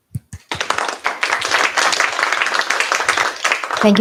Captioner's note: applause